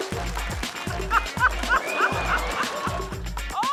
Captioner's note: laughs; laughter